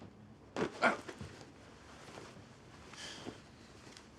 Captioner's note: Isaac exclaims